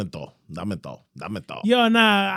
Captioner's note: speaking Foreign Language